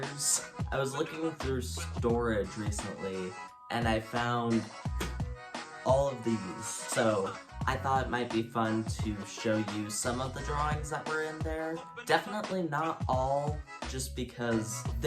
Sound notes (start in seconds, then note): 4.7 thud